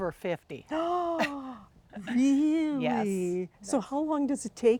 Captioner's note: gasping